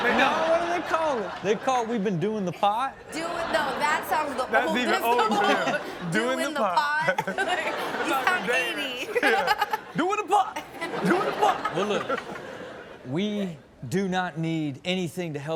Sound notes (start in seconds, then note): 7.0 audience laughs; 9.3 laughs